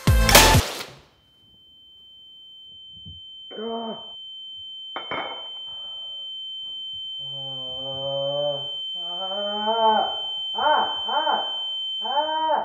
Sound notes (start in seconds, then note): 0.1 balloon pops; 1.0 moans in pain; 1.0 sound of ears ringing